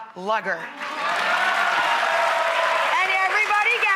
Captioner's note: audience applauding